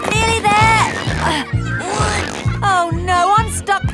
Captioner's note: grunting